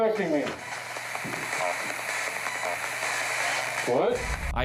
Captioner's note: static from spirit box